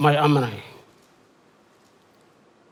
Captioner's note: foreign language